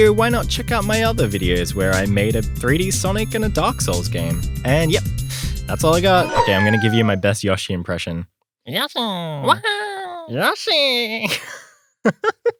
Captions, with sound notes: why not check out my other videos where I made a 3D Sonic and a dark Souls game. And yep, that's all I got. I'm going to give you my best Yoshi impression. (Terrible Yoshi impression)